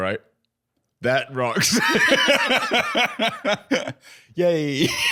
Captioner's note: laughing